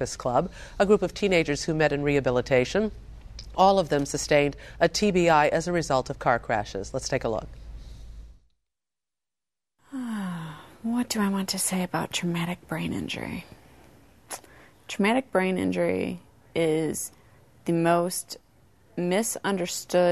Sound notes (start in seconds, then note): 9.9 sighs